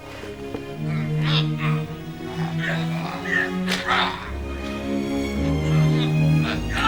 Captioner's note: somber music; men grunting